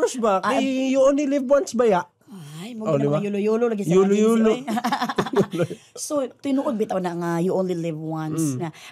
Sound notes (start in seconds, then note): 4.7 chuckling